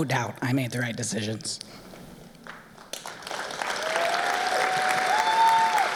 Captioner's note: applause